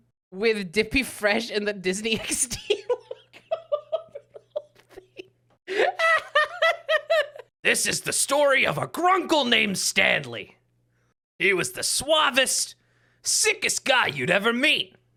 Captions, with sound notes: with Dippy Fresh and the Disney XD logo over the whole thing? [still laughing] [Grunkle Stan impression] This is the story of a Grunkle named Stanley. He was the suavest, sickest guy you'd ever meet.